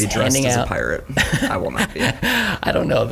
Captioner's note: laughs